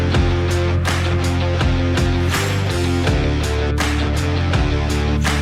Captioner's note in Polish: Aplauz